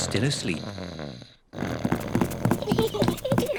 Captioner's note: snores; both giggle